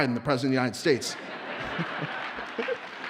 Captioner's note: audience laughs; audience cheers and applauds